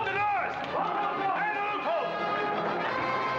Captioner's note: men shouting; dramatic music